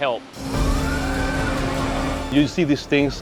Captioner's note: machine whirring